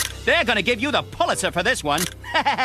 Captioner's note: laughter